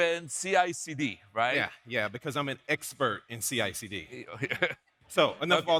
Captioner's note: laughs